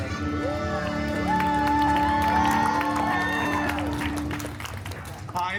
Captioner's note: guests cheering and applauding